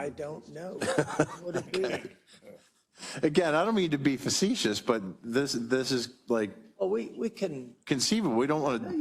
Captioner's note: laugh